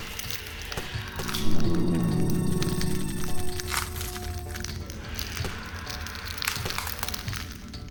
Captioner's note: eggs cracking